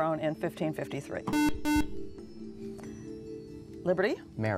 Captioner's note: buzzer